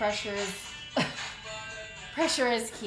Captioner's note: woman laughs